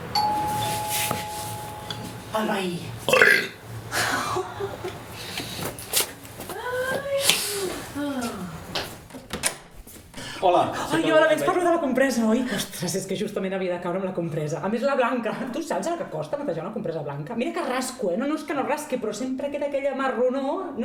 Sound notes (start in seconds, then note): 0.0 doorbell rings; 3.1 burp